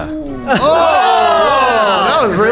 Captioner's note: oooh